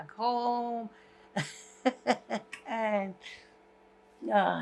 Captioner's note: laughing